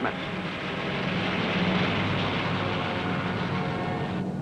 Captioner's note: airplane engine roars